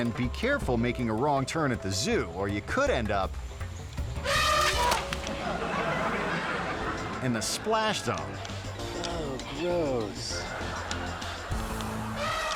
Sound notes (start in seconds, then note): 0.0 suspenseful music; 4.2 elephant trumpeting; 5.8 mud flinging; 5.8 people laughing; 10.8 upbeat music; 11.6 elephant trumpeting